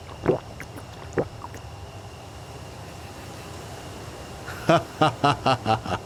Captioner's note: Rao drinks